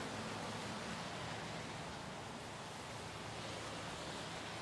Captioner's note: background traffic